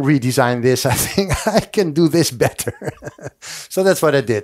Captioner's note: laughs